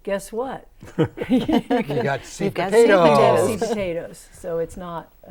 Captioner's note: laughing